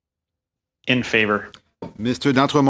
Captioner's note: speaking French